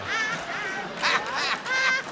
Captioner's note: laughing